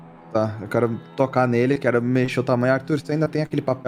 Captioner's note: none